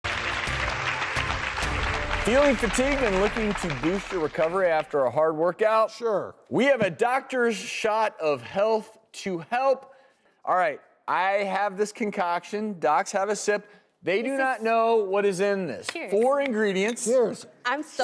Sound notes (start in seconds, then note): 0.0 audience applauding